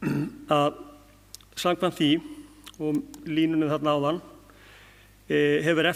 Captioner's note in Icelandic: ræskir sig